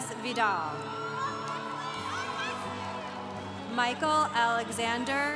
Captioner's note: congregation applauding